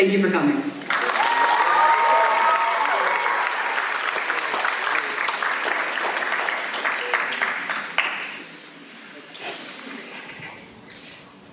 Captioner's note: applause